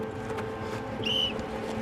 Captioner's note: whistle blows